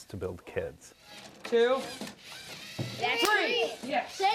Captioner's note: robot whirring